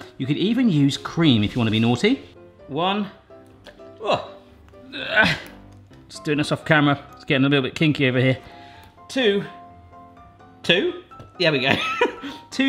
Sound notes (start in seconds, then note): 4.8 groans; 12.1 laughs